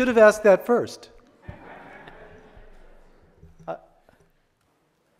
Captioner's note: audience laughs